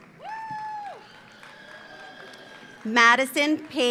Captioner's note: audience applauds; audience cheers